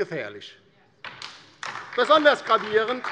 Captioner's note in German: Beifall DIE LINKE und vereinzelt SPD